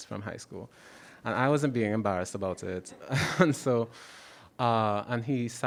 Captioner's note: laughs